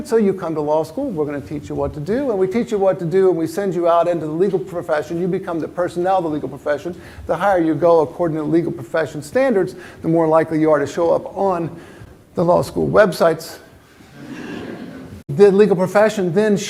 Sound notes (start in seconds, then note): 14.0 laughter